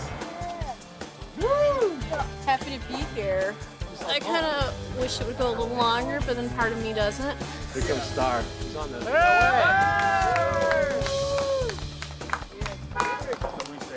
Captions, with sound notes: Woooo! Happy to be here. I kinda wish it would go a little longer, but then part of me doesn't. Here comes starr. [Cheers]